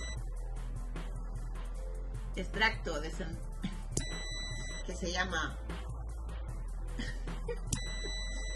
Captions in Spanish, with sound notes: extracto de sen... (sonido: risa corta) (sonido: piiiiii) ... que se llama... (sonido: risa ahogada) (sonido: piiiiii)